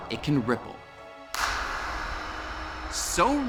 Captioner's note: claps